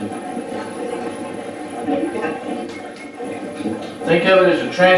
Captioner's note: static playback transmitting